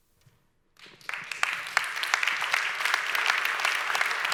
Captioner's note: audience applauds